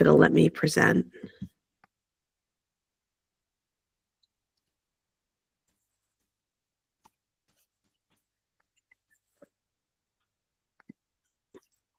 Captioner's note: silence